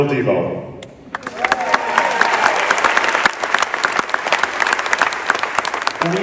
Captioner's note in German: Menge jubelt